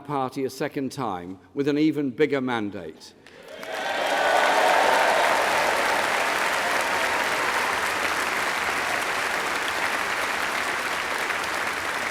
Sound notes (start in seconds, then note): 9.1 applause